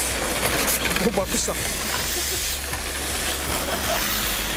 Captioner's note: laughs